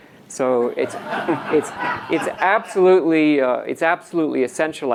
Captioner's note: audience laughs